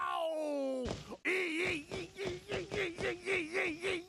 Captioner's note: yelping